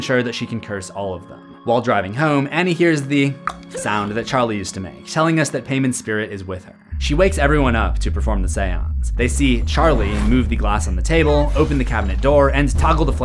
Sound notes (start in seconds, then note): 3.4 click